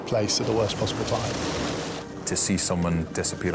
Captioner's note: water splashes